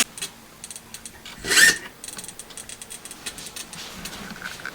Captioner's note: zip